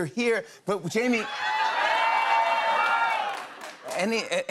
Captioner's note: audience exclaiming